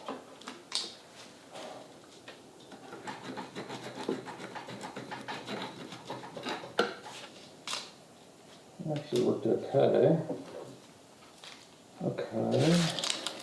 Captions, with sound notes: (file cutting) (tape tearing) That actually worked okay. Okay.